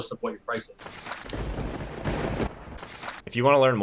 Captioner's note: thunder bangs